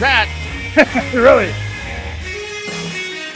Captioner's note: laughs; rock music continues